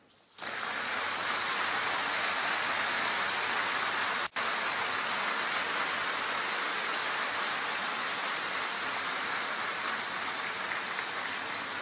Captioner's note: applause